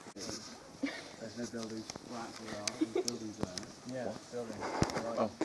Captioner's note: muffled laughter